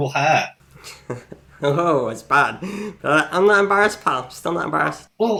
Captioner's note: laughs